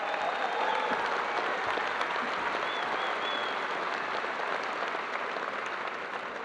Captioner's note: audience applauding